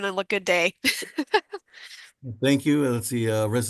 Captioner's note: laughter